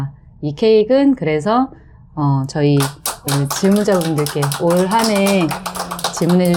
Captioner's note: applause